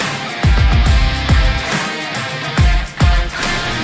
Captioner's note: applause